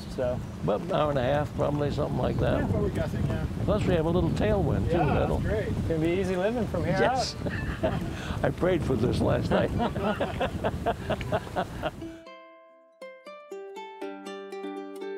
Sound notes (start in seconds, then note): 9.5 laughs; 11.6 relaxing music playing